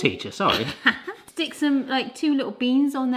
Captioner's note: laughs